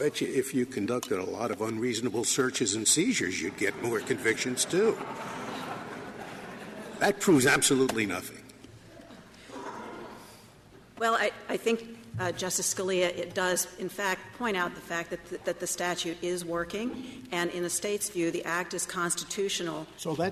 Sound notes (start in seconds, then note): 5.1 laughter